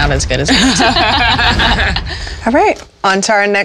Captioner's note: laughter